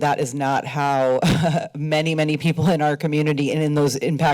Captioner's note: laughs